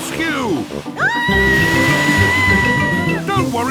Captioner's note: screaming